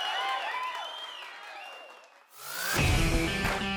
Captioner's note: cheering ends; rock music starts